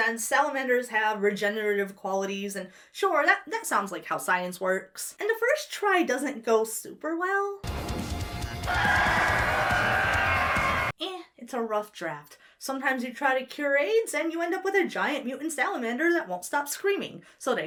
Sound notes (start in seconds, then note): 7.6 aggressive music; 8.6 creature screeches